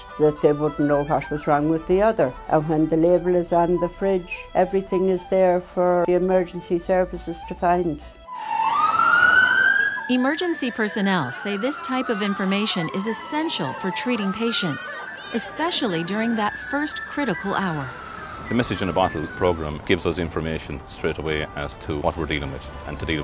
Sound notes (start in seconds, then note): 8.3 siren